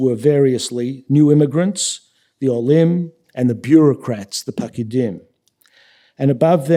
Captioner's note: yiddish